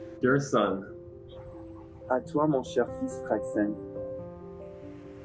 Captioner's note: French